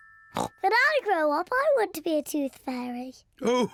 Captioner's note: oinks